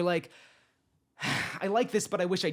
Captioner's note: sighs